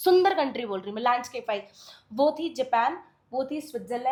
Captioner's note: nasal sound